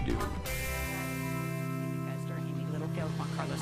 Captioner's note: speaking distortedly